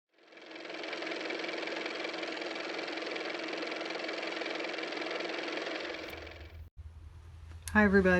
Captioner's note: car motor